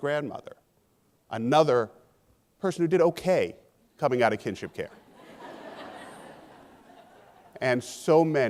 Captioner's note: laughing